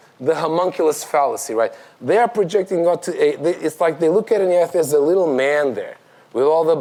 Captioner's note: none